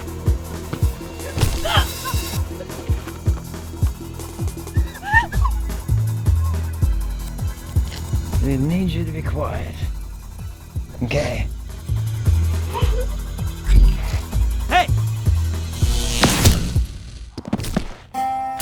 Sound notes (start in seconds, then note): 13.6 portal sound; 15.6 electricity noises